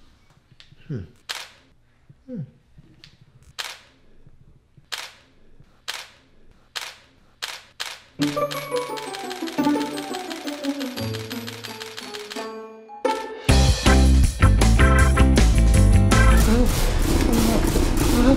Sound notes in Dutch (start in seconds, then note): 3.5 ontspanner klikt herhaaldelijk; 8.2 grillige muziek; 13.0 vrolijke reggae; 16.1 gejammer